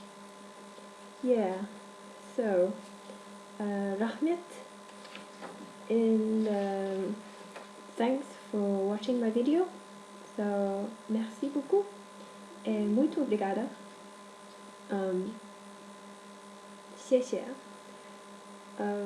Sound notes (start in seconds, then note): 4.4 in Kazakh; 17.6 in Mandarin